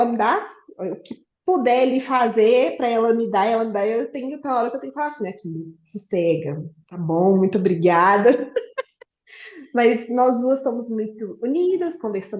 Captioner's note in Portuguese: risos